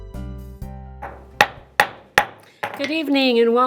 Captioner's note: gavel bangs